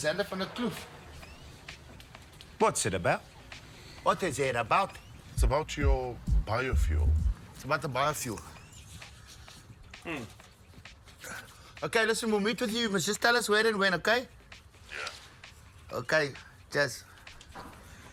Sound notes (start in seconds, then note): 14.9 Dawg over the phone